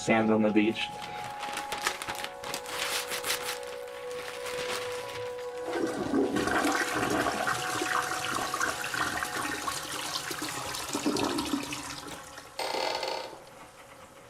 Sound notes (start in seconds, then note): 0.9 paper rustling and ripping; 5.6 toilet flushing; 12.5 door creaking